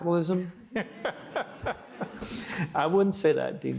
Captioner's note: all laughing